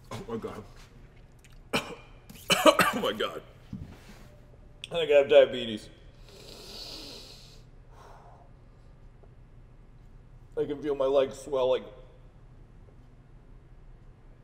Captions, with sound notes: Oh my god. [COUGHING] Oh my god. I think I have diabetes. [BREATHING DEEPLY] I can feel my legs swelling.